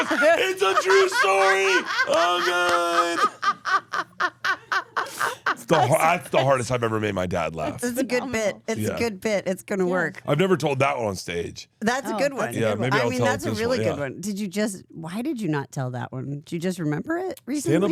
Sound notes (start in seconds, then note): 3.6 Steph laughs